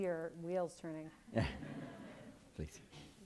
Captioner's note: laughs